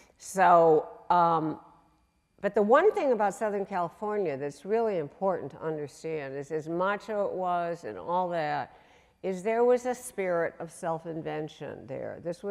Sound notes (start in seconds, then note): none